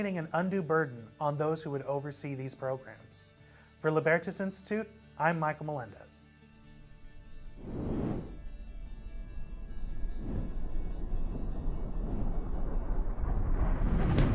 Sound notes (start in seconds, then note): 6.3 soft music; 7.4 air whooshing